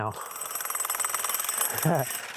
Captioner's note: drill whirring; chuckles